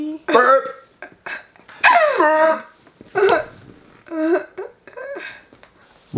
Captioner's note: laughing